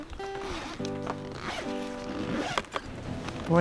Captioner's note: whistles